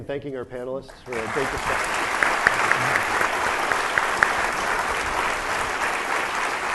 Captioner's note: audience applauding